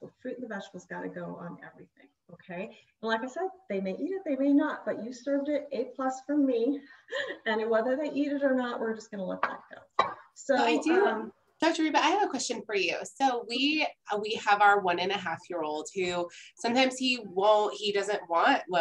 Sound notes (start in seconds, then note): 7.1 chuckles